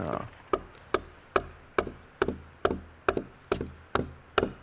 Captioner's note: tool banging